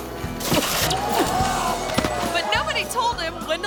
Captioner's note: line crackles; thuds